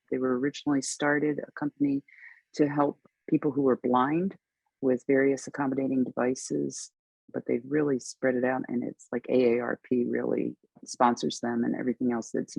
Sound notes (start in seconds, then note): none